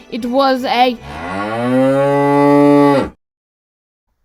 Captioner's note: cut off by Cow moo-ing